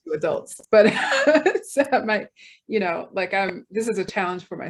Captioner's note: laughs